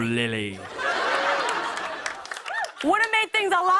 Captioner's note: laughter